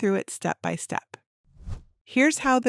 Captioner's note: transition whooshes